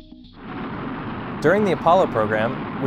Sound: rocket engine

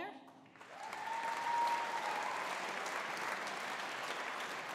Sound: audience applauding

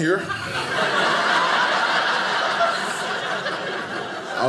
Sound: audience laughing

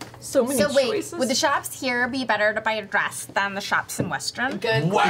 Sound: valley girl voice

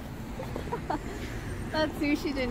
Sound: Shay giggles

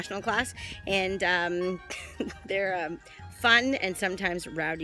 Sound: laughs

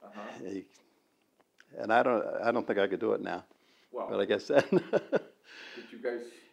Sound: laughs

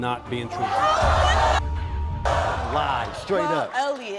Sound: audience gasps; beep

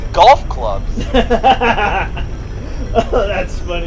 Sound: laughter

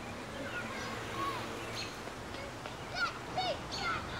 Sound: kids playing

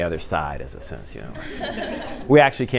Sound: laughter

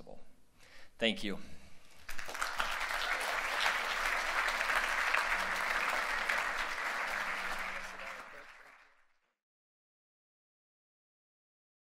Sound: applause

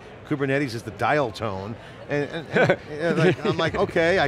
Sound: laughs

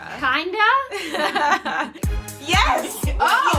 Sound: laughing

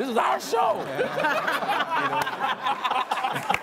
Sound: all laughing

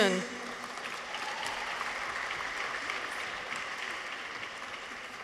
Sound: audience applauds

